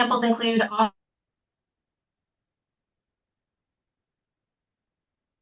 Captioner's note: audio cuts out